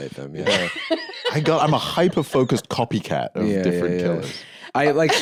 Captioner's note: laughs